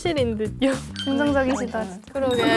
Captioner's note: clap